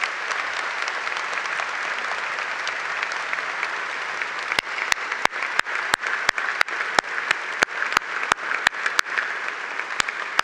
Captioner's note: applause